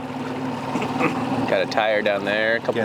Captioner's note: laughs